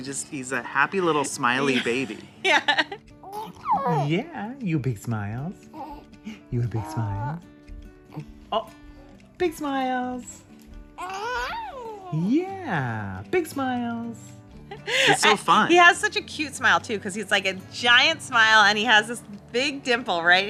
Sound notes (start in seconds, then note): 0.9 laughs